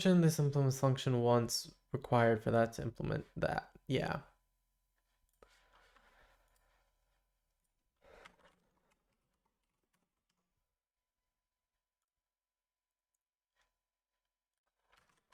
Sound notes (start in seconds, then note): 4.8 silence